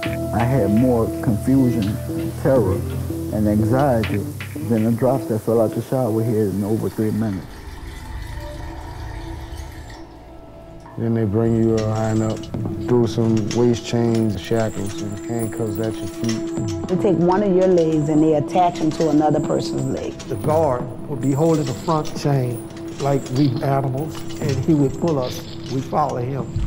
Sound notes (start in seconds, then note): 8.6 water running